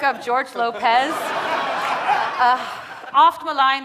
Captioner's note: audience laughing